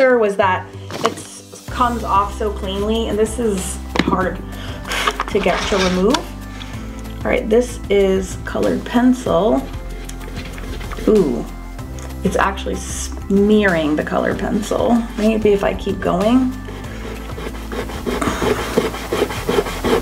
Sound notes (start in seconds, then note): 4.6 blows; 16.4 eraser rubbing